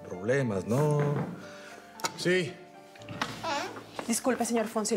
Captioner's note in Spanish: toques en la puerta